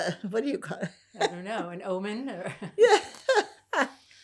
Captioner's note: laughing